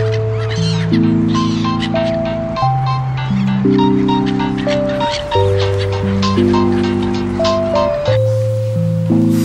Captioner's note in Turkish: telefon çaliyor